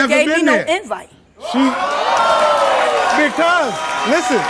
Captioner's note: audience exclaims in disbelief